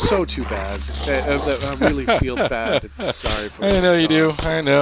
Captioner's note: laughs